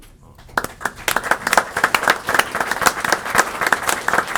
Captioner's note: applause